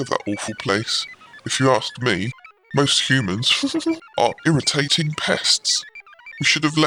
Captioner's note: laughs